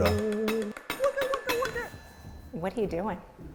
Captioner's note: commotion fades